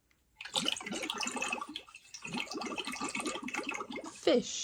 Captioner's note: water gurgles